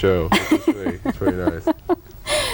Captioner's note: laughter